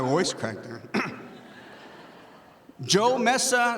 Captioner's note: audience laughing